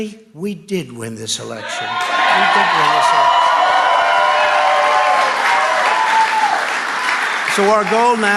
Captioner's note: crowd cheers and applauds